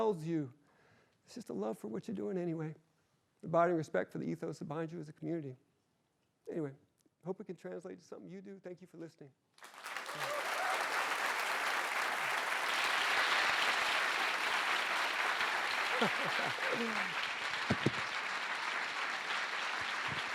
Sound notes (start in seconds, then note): 9.7 applause and cheering; 15.6 laughs; 16.5 applause continues